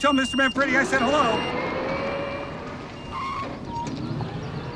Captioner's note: battery whistling; brakes squealing; battery whistling